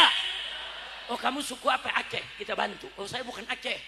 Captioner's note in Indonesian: tertawa